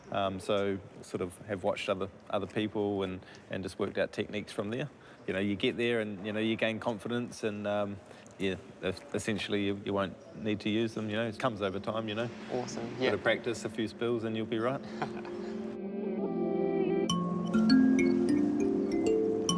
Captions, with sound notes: So, sort of, have watched other people and just worked out techniques from there. You know, you get there, and, you know, you gain confidence, and, yeah. Essentially, you won't need to use them, you know. It comes over time, you know. Awesome, yeah. A bit of practice, a few spills, and you'll be all right. (CHUCKLES)